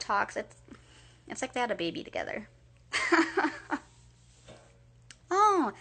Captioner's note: laughing